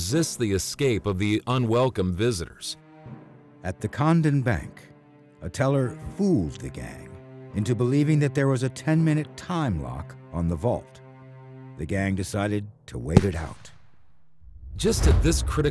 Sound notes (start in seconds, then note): 13.1 gunshot